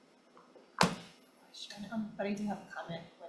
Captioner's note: wood thuds